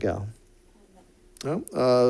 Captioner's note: speaks off mic